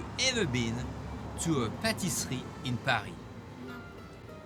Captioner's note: speaks in foreign language